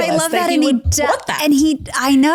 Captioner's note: overlapping chatter